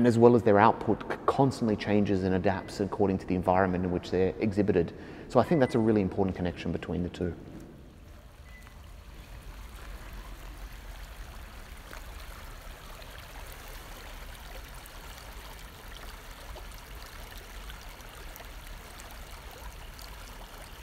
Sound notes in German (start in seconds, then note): 7.7 Geräusch von fließendem Wasser